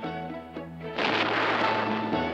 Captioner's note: thunder crashes